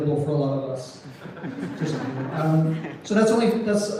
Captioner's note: scattered laughter